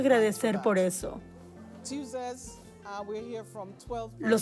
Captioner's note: Hablando idioma extranjero